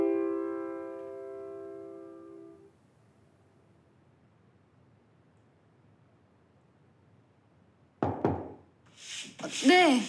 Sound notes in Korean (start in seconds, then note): 8.0 노크 소리